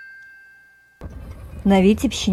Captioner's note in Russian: колокольчик